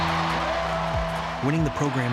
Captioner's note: crowd cheering